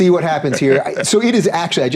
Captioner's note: chuckling